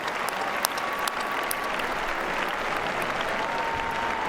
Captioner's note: applause